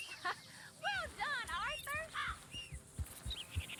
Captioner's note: laughs